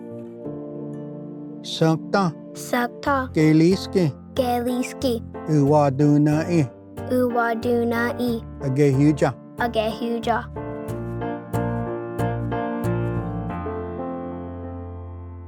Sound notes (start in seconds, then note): 0.2 Repeats first word in Cherokee; 3.6 repeats second word in Cherokee; 5.8 repeats third word in Cherokee